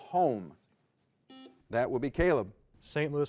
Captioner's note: buzzer beeps